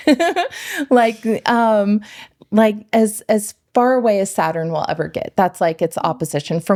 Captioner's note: laughing